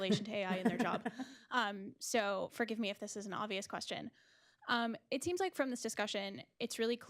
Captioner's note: laughter